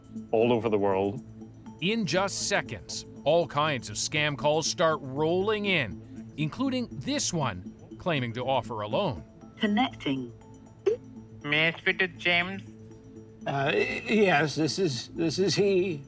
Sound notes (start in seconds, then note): 9.6 automatic voice; 9.6 phone beeps